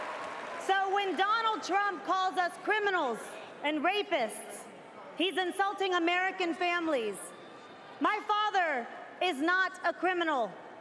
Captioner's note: cheering